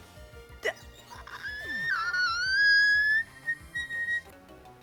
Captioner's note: dying noises/boiling tea kettle noises